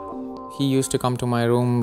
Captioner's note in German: englisch